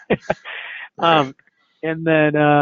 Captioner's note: laughing